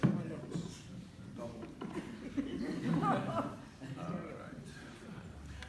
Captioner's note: laughter